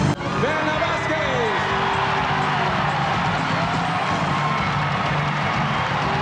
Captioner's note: crowd cheering and applauding